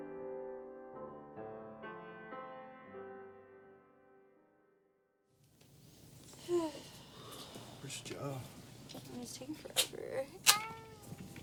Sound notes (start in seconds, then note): 6.4 woman sighs